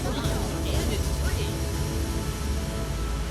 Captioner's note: multiple advertisements overlapping